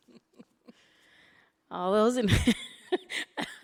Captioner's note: laughing